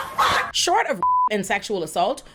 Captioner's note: beep